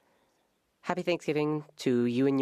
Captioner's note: speaking French